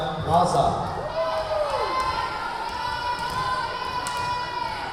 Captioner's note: yelling